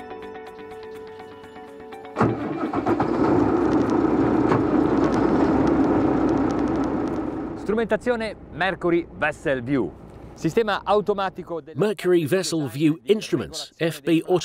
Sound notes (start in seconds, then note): 2.2 engine startup